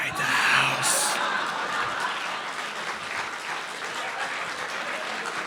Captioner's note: audience applauding